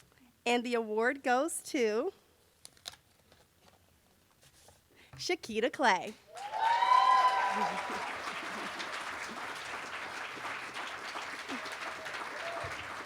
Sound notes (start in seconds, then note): 6.3 cheering